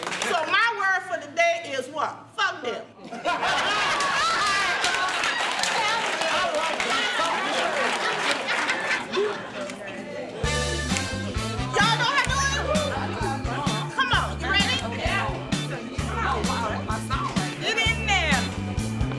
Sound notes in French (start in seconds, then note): 3.4 Fortes acclamations et applaudissements